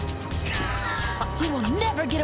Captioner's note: laughing